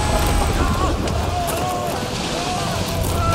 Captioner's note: sailors yell